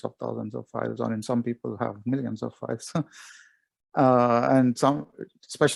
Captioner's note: chuckles